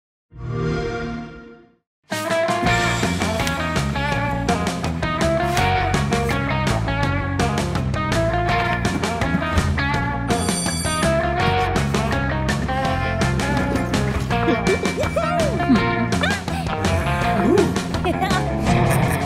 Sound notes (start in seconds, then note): 0.4 xbox sound; 10.3 school bell rings; 14.5 character sounds